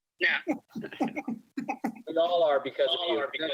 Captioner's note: chuckling